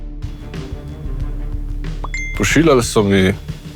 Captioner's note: message sound